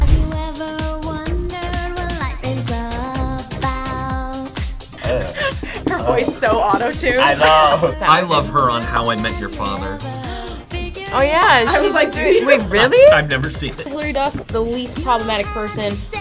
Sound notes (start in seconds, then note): 7.9 laughs; 10.0 React gasps; 11.4 laughs